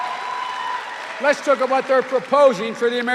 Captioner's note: cheers and applause